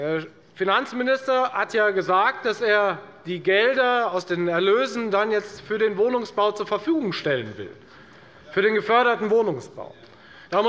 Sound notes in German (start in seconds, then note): none